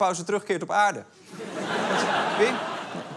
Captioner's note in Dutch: Gelach